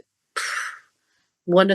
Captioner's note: phew